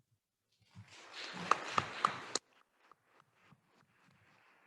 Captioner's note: attendees applauding